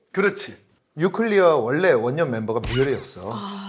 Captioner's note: boom